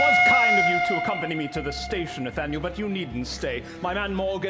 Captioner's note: train chugging and whistle